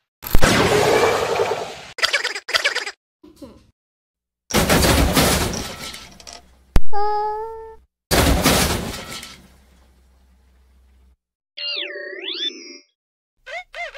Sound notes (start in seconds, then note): 0.3 ka-Boom; 1.8 Metal Henry Laughing; 3.2 egotistical Chuckle; 4.1 Metal Henry Slaps Henry; 8.1 crash